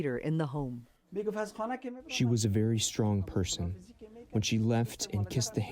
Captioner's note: through translator